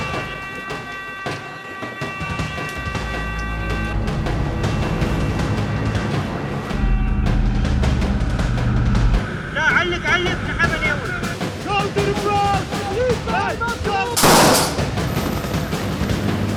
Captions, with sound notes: (speaking in foreign language) Go to the front! Hey! Go to the front!